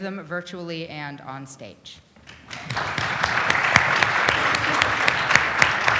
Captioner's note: audience applauds